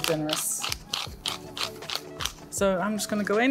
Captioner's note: grinder grinding